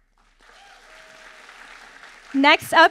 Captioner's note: audience applauding